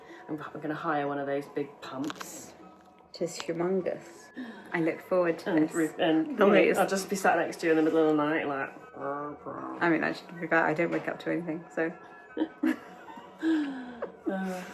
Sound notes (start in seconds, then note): 8.9 grumbling; 12.3 everyone laughs